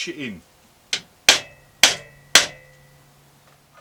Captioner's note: hammering